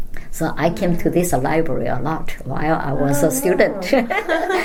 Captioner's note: all laugh